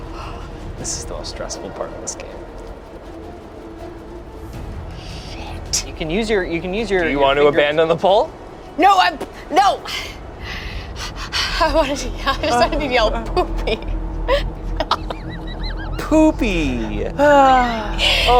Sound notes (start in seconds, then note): 14.7 everyone laughs